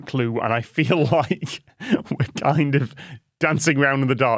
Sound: laughs

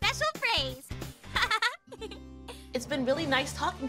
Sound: giggles

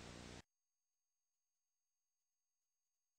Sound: silence

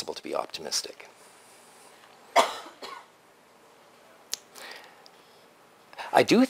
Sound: pause

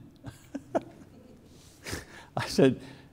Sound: laughs

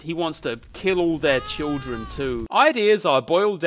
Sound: man screaming

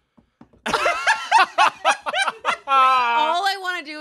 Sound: laugh

